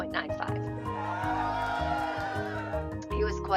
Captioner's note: crowd cheering